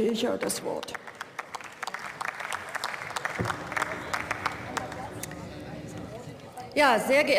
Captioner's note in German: Beifall